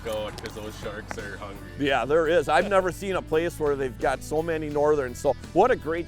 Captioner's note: laughing